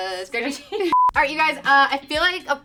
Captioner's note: beep